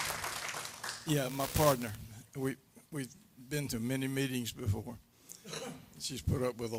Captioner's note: applause